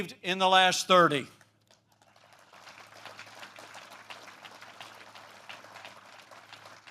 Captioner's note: applause